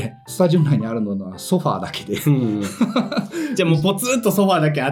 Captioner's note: laughs